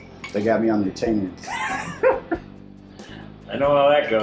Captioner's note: Eddie laughs